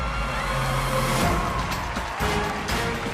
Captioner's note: cheers and applause